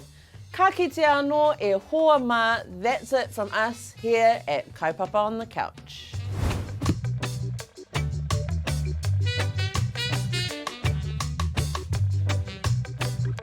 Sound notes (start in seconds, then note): 6.2 air whooshing